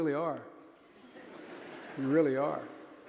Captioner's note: audience laughing